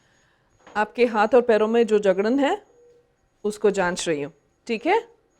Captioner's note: now speaks in Hindi